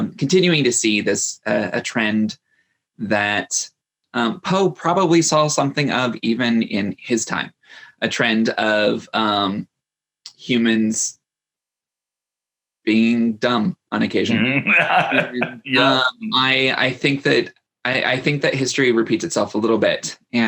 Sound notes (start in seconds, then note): 14.3 laughs cheerfully